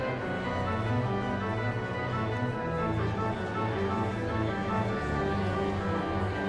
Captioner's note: audience members chattering indistinctly